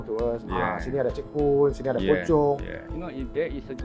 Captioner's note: in Malay